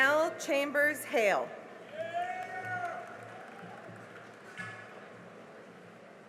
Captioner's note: cheering and applause